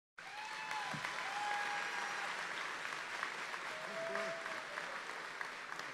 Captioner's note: audience cheering and applauding